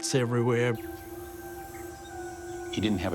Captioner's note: birds twittering